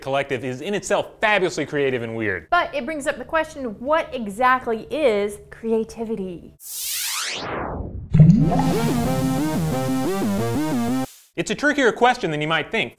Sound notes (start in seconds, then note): 6.6 electronic whoosh; 8.1 water bubbles; 8.1 retro music